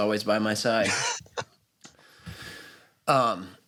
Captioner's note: laughs